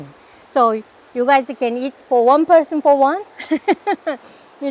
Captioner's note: laughs